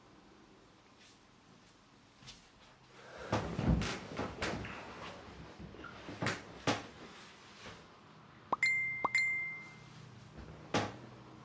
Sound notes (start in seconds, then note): 3.4 bed creaks; 8.5 two messenger sound effects playing